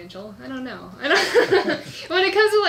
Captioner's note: laughs